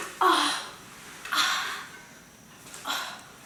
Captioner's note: groaning in pain